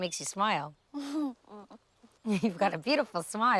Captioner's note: chuckling